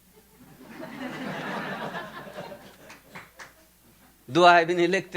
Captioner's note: audience laughing